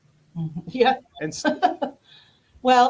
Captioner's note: chuckles